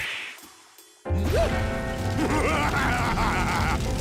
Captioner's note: evil laughter